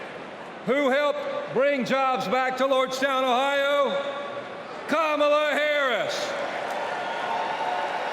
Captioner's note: applause